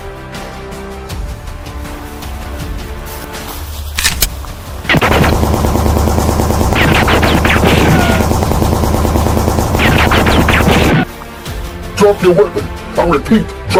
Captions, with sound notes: (gun cocking) (gunshots banging) - Drop your weapon, I repeat.